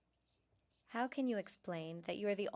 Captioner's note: speaking French